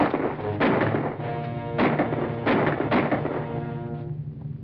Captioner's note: gunshots firing; instrumental music playing